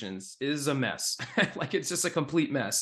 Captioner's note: chuckles